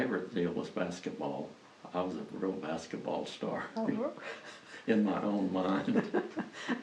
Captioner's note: laughs